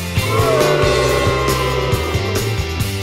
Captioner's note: booing